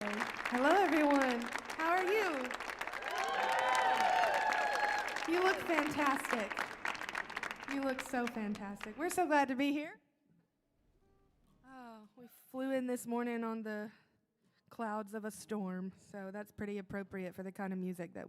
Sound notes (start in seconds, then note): 0.1 audience applauding; 3.6 audience cheering